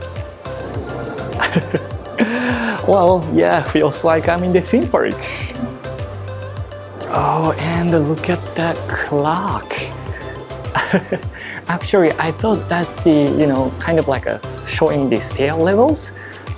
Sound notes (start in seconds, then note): 0.6 laughs; 9.9 chuckles